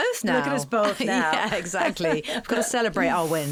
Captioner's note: laughing